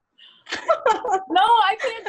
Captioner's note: laughs